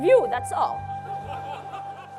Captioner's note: laughter